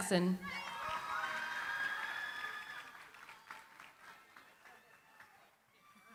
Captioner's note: cheering, applause